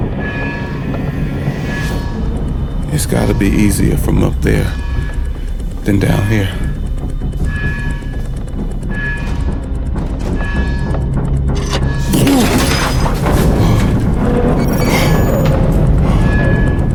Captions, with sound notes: It has got to be easier from up there than down here. (suspenseful music) (metal clanking)